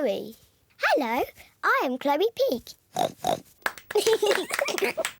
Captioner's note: oinks; both giggle